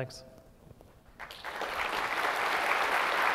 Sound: applause

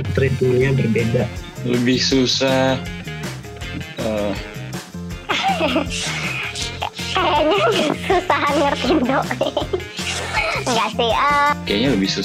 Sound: can't stop laughing

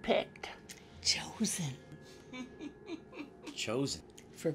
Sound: Walter chuckles

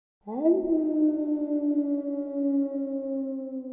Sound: howling

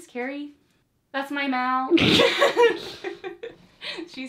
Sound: both laugh

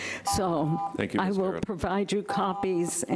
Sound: beep

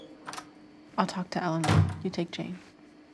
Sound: door closes; door opens

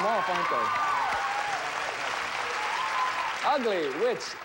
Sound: audience applauding

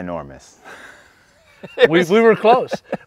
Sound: laugh

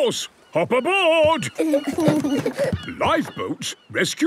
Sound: both giggle

